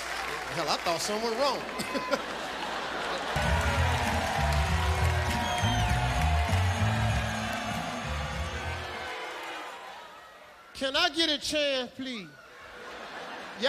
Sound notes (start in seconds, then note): 1.7 audience laughing; 1.7 chuckles; 3.1 audience booing; 3.3 band playing; 12.6 audience laughing